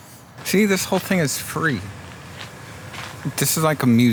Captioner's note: birds chirping